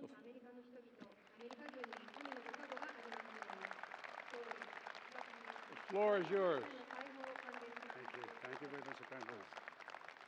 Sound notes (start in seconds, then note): 1.0 applause